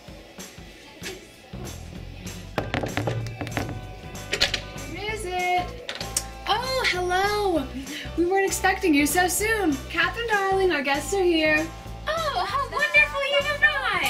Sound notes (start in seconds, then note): 2.6 knocks